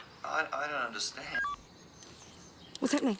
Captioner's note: recorder beeps